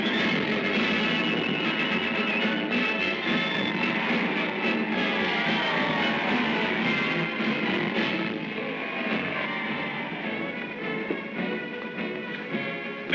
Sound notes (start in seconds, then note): 0.0 triumphant orchestral music; 3.9 cheering; 3.9 triumphant orchestral music; 9.8 uplifting music